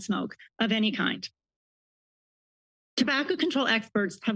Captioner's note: pause